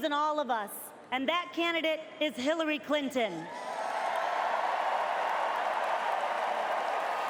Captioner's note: cheers and applause